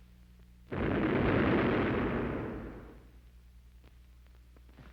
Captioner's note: canons booming